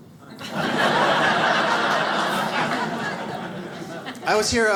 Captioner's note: audience laughs